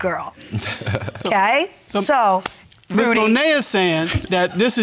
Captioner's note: laughs